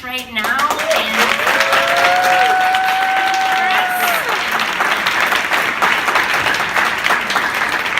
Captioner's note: applause